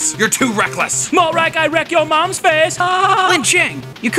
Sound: laughs

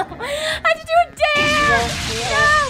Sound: flames roaring

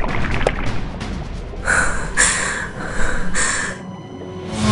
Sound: panting nervously

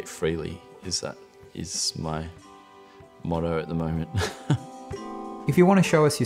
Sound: laughs

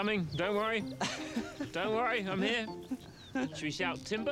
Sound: laughing

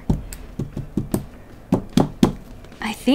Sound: smacks board with marker

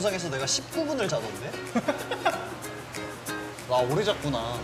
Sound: holding in laughter

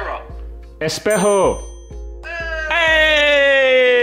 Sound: foreign language

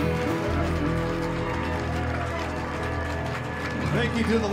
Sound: cheers and applause

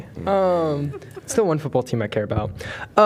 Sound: laughter

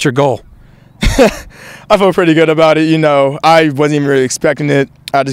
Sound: laughs

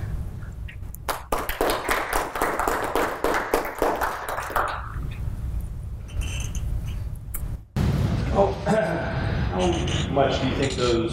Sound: applause

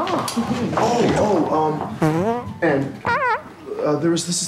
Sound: farts

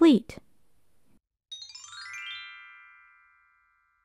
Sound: chime sound

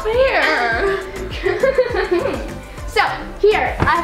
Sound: laughing

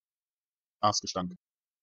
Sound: fast Pronunciation

